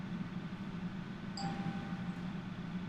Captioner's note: phone dinging